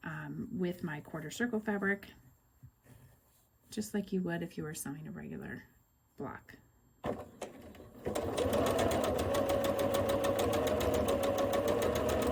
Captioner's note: sewing